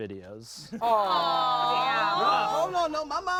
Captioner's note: everyone coos